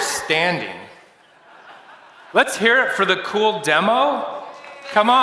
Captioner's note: laughter